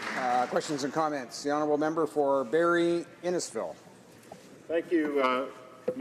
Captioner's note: applause